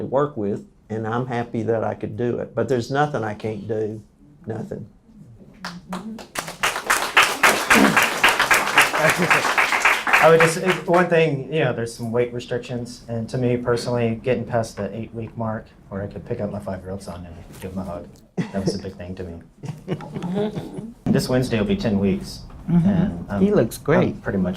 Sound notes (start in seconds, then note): 5.6 applause